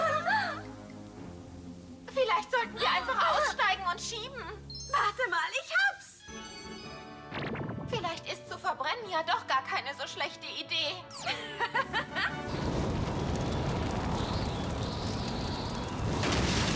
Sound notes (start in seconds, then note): 11.2 laughing